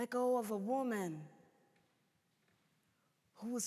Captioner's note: none